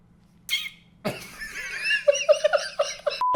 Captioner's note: laughs